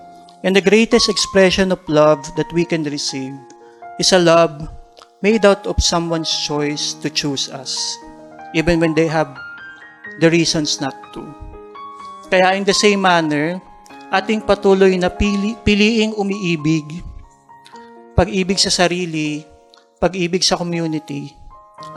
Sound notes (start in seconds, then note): none